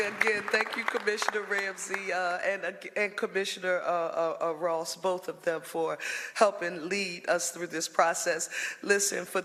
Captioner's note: applause